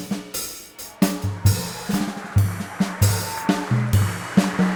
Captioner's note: audience cheering